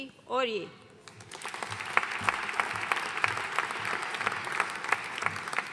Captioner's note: audience applauding